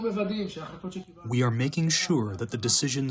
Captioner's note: through translator